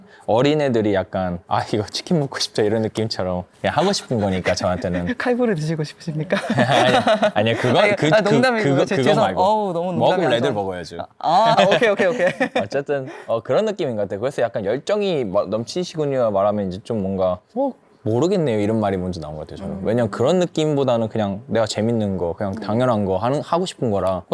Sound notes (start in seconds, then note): 6.3 laughs; 11.5 laughs